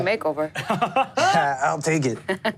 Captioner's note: laughs